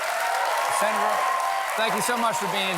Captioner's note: cheers and applause